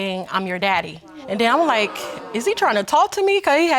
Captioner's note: audience exclaiming